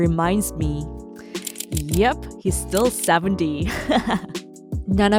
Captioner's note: laughs